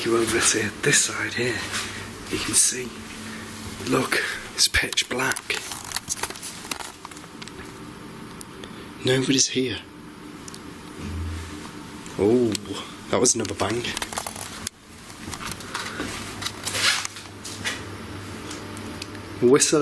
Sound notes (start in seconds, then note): 11.0 bang